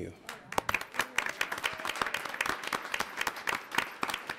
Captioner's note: audience applauds